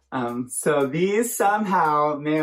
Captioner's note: none